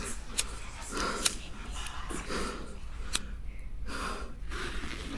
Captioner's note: lighter flicks; voices whispering